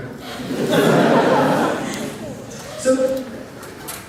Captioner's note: laughter